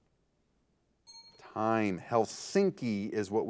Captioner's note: timer beeping